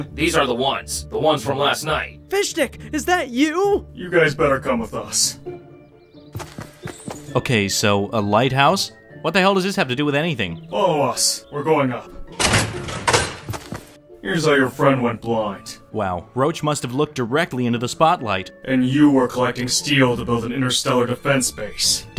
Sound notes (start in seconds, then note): 6.2 footsteps tapping; 12.2 metal clanking